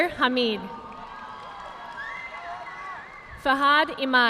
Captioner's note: audience clapping